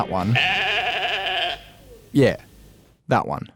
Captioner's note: sheep baas